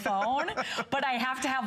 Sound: laughter

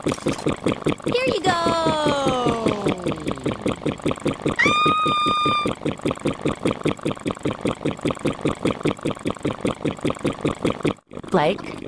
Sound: Ruby Screaming

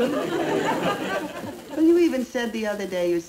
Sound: crowd laughing

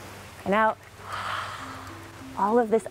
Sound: inhaling; all exhaling

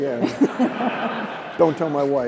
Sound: laughter

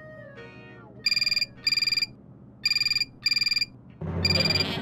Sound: phone ringing

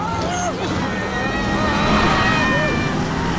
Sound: screaming

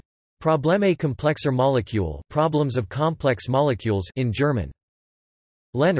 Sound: in German

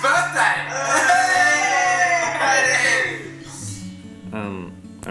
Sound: cheering

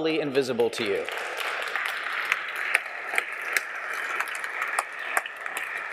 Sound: applause

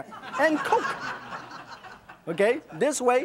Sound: audience laughs

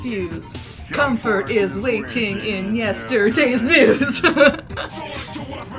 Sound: laughs

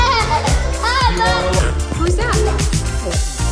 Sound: laughter

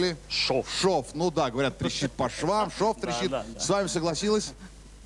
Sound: laugh

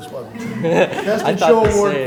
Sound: laughter

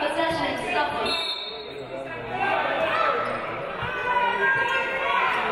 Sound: referee blows whistle

